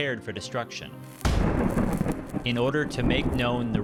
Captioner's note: trovões